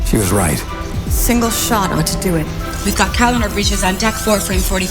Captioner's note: movie dialogue plays